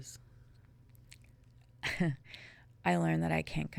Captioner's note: chuckling